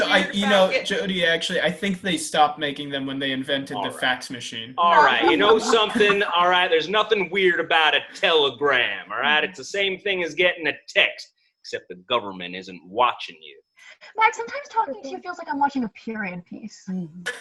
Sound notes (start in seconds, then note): 4.9 ALL laugh